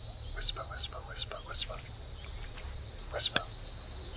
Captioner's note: whisper